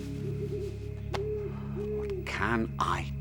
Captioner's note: owl hooting